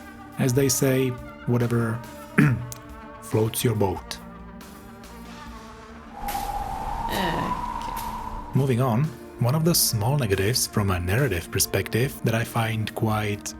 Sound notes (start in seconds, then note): 4.9 tires Screeching